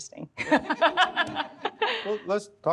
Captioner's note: all laugh